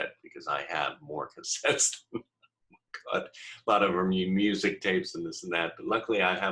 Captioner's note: laughing